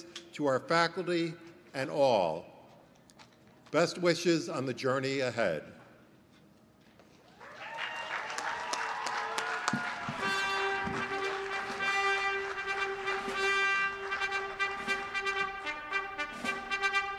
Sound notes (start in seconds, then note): 7.3 applause; 10.1 orchestra music playing